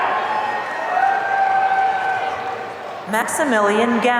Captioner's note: audience cheering